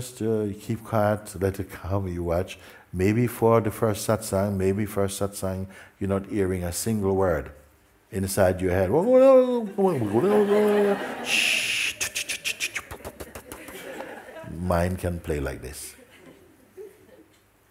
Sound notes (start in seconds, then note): 13.2 laughter